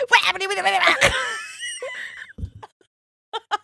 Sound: blabbering; both laughing

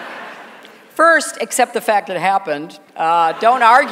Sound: laughter

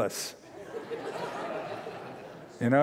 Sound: laughter

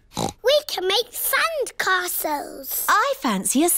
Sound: oinks

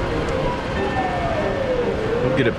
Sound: SOUND: sirens start in the distance

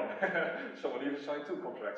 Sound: laughs

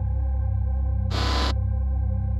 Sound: robot sound effect

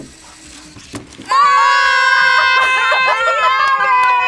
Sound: both yell

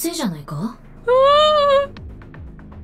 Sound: whimpers

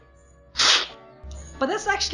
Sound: slurping

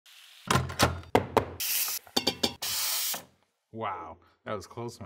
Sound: pots and pans knock

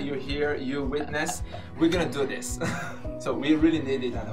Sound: chuckling

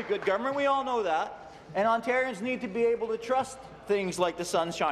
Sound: applause

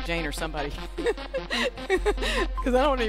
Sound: laughs

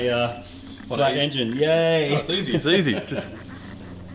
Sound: laughs

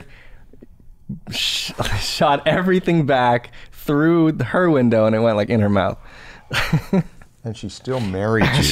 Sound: chuckles

